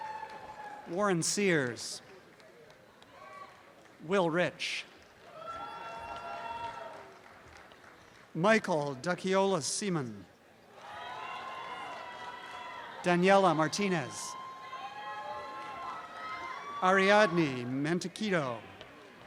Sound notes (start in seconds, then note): 4.8 applause and cheering; 10.8 audience shouting and cheering; 14.3 screaming and cheering